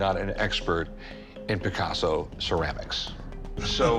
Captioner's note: chuckling